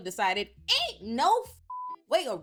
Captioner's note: beep